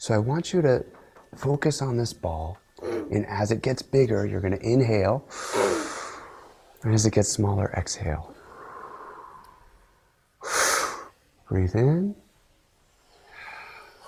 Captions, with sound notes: So I want you to focus on this ball. And as it gets bigger, you're gonna inhale. (inhales deeply) And as it gets smaller, exhale. (exhales softly) Breathe in